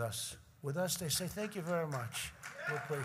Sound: applause

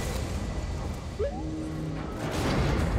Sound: boo-woop

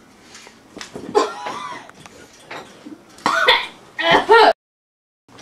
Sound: coughing

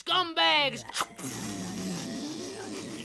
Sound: whooshing sound

